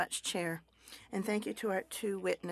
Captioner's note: speaking French